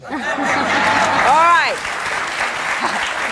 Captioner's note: audience laughs; audience cheers and applauds